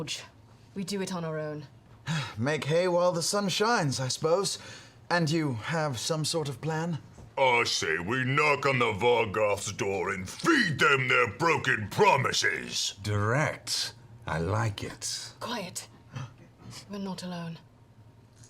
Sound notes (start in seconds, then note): 2.0 sighs